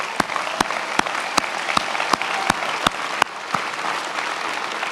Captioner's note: many applauding